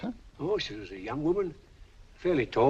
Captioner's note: none